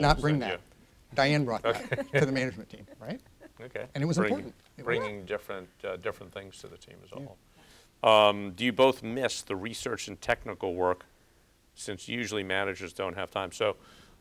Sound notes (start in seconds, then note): 1.6 laughs